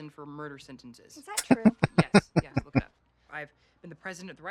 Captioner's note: chuckling